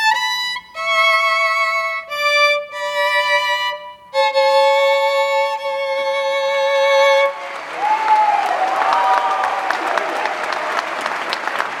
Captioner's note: applause